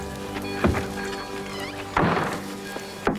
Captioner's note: clanging of train bell